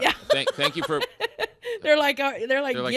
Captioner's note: laughing